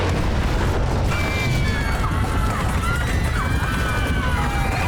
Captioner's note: passengers screaming